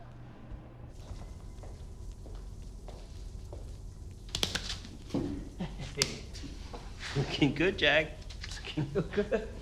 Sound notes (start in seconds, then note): 4.3 smacking; 8.6 laughs